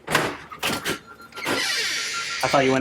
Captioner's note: door opening